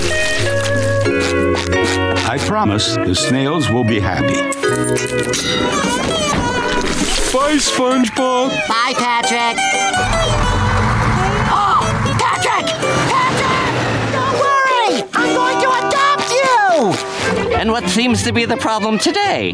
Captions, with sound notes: I promise, the snails will be happy. -Bye SpongeBob. -Bye Patrick. [gasps] Patrick! Patrick, don't worry! I'm going to adopt you! And what seems to be the problem today?